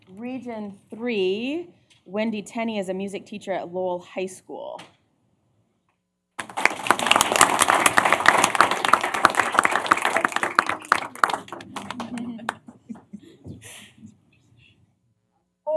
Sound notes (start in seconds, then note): 6.4 applause; 11.7 laughter